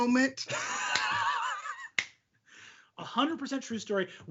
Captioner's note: laughing